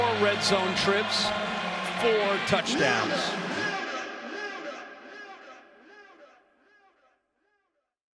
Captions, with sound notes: Four red zone trips, four touchdowns. (loudspeaker echos)